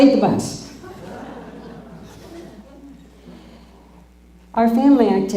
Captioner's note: laughter